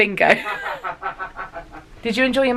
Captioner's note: laughs